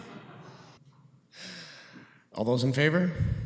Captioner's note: laughter